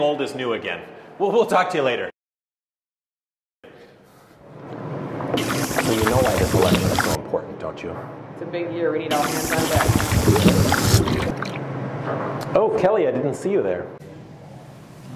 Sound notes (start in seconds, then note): 7.9 coffee slurping